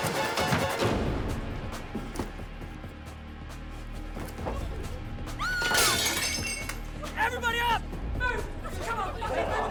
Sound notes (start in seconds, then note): 5.4 screaming; 5.6 dishes shattering